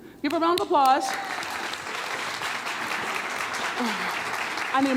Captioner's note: hands clapping